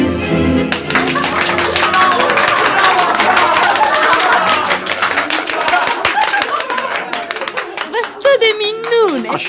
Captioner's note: sounds of applause